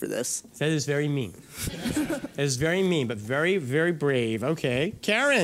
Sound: laughter

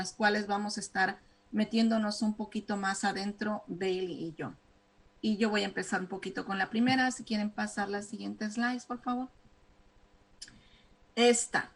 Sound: speaking spanish

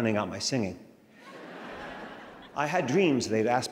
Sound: crowd laughing

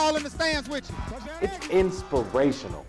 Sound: crowd cheering

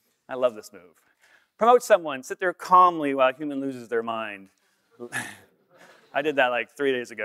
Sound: laughter

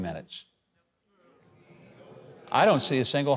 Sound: audience murmuring

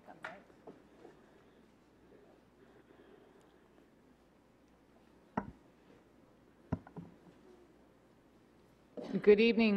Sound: clapping

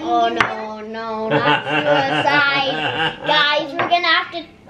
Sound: laughs

